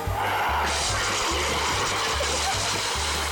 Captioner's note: extinguisher sprays; laughing